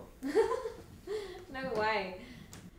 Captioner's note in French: rire